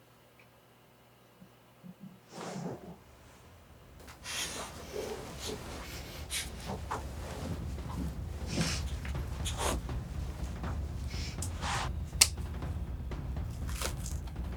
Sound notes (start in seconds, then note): 2.6 sound of tossing and turning; 3.5 building music